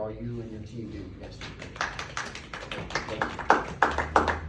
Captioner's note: applause